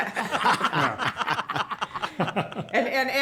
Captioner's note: laughter